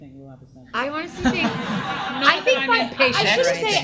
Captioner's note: audience laughs